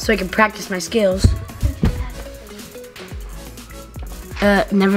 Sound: basketball bouncing on carpet

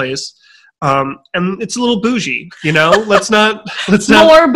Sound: laughing

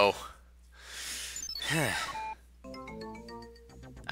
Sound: breathing

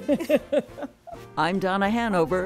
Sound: laughing

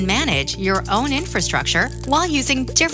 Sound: wrench clicking

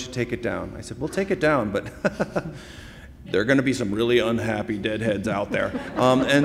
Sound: laughs

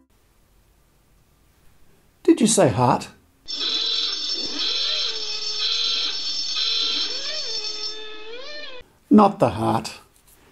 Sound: noisy klaxon

